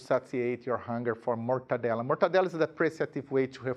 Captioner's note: speaking in a foreign language